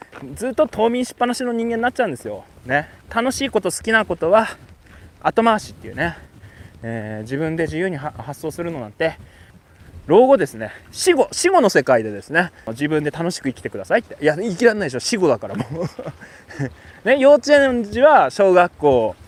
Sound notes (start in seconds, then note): 15.5 laughs